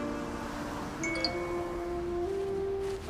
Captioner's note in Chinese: 訊息鈴聲